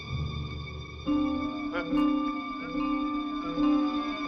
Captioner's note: gasping